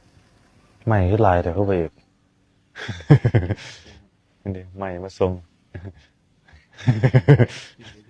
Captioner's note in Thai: เสียงหัวเราะ